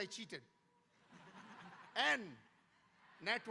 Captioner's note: audience laughing